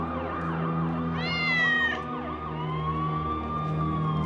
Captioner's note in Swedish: katt jamar